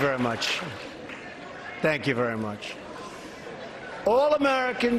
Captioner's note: applause